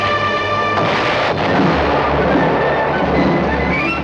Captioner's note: bugle blowing; gunfire and explosions